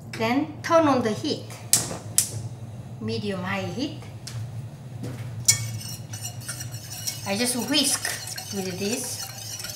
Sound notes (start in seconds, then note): 5.5 beater clinking